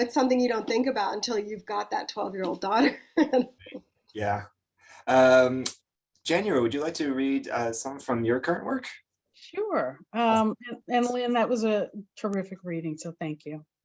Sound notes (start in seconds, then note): 2.8 chuckles